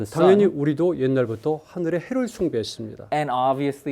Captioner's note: speaking in Korean